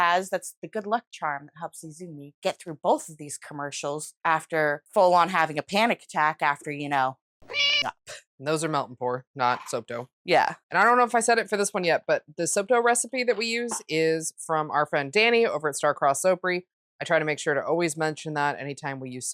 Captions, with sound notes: That's the good luck charm that helps Izumi get through both of these commercials. After full on having a panic attack after, you know, [MEOW]ing up. Those are melt & pour, not soap dough. Yeah. And I don't know if I said it for this one yet, but the soap dough recipe that we use is from our friend Danii over at Starcrossed Soapery. I try to make sure to always mention that anytime we use soap